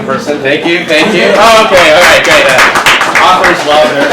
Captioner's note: audience applauds